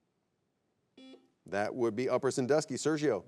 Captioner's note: buzzer beeps